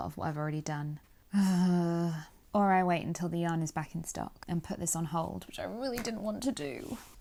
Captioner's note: sighs